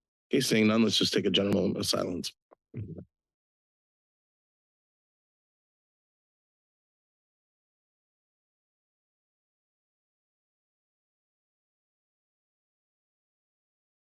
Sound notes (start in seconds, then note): 2.9 silence